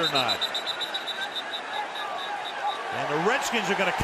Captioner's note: whistle